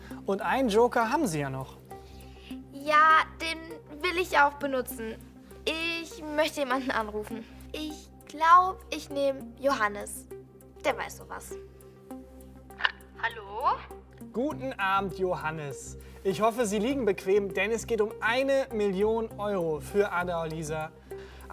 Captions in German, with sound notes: Sie haben einen Joker. Ja, den will ich auch benutzen. Ich rufe jemanden an. Ich denke, Johannes. Der weiß sowas. (über Telefon) "Hallo." Guten Abend. Ja, es geht hier um 1 Million Euro für Adoalisa.